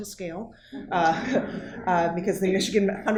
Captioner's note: audience chuckling